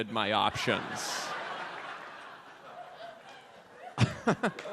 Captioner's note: audience laughs